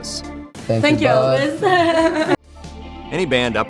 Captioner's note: laughing